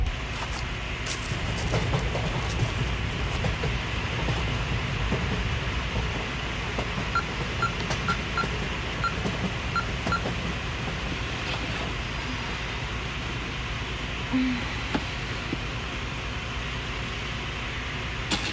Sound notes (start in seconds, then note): 0.3 train passing in background; 6.7 keypad blips